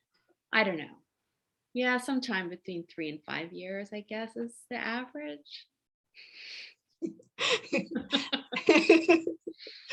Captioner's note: laugh